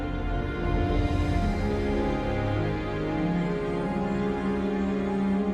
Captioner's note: none